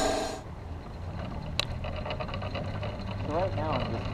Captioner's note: wheels clicking